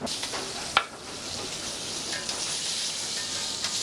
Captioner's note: pan sizzles